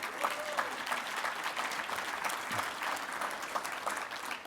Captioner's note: audience applauding